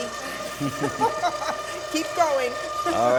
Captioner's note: both laugh